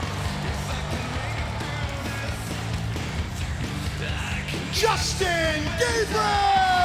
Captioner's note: crowd cheering